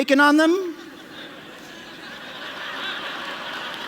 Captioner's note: laughter